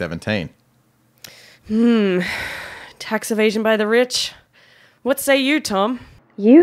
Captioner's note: takes breath